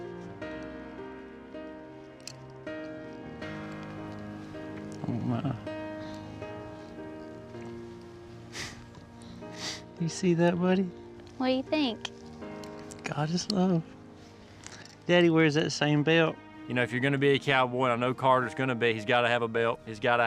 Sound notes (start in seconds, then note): 8.3 exhales; 13.1 says emotionally